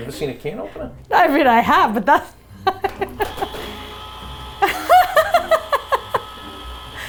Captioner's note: laughs